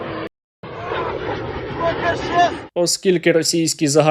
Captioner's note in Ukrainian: звук ракети, що пролітає